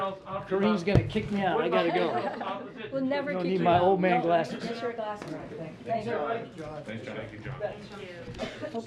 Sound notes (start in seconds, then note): 1.7 laughs